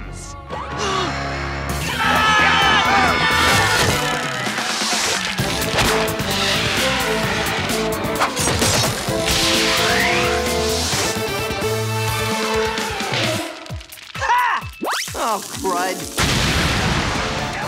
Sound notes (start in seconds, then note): 0.1 gasps; 1.8 screaming